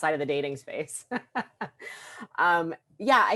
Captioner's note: laughs